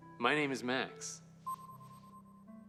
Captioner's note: system beeps